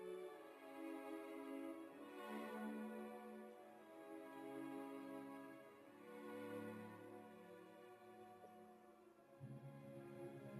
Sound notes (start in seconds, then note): none